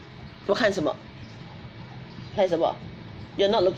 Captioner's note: speaks in foreign language